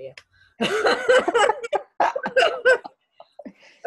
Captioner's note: laughing